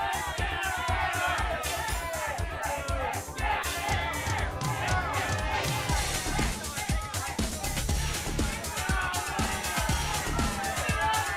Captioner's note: crowd chatter